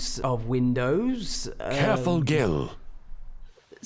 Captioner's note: voiceover